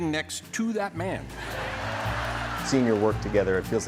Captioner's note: laughter